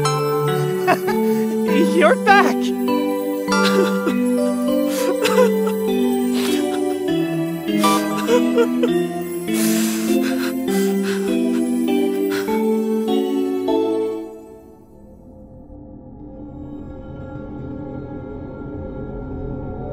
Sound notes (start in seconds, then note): 4.7 crying